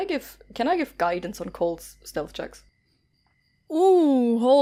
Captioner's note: none